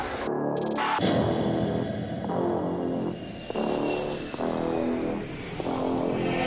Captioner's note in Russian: тревожная музыка; шум самолета